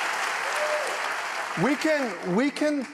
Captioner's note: applause